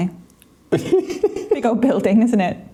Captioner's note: laughing